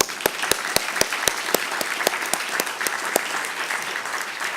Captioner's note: applause